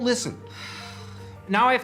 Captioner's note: exhalanción de hartazgo